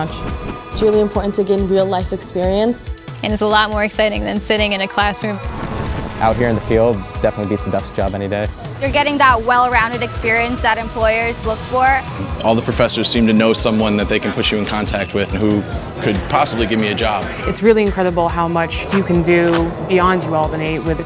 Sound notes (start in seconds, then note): 5.4 drone noise